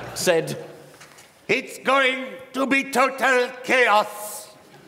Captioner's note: indian accent